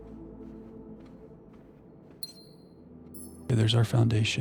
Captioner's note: beeping